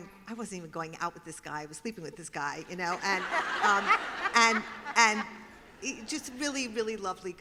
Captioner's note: laughter